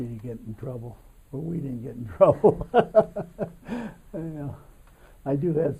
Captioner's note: laughs